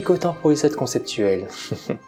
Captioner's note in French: rire